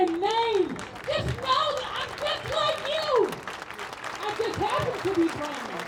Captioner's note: audience claps and cheers